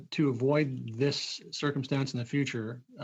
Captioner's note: speaking French